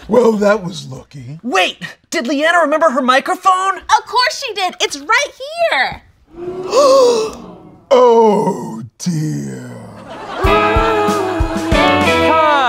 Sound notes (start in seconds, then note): 6.4 gasps; 9.4 audience laughs